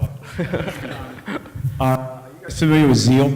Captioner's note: laughter